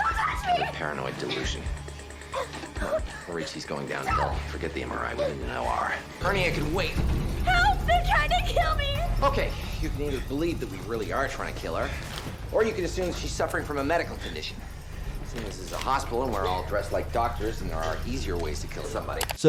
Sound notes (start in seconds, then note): 2.2 patient shrieking